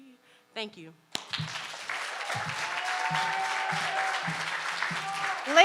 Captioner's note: audience applauding